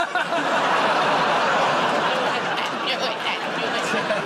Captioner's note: laughter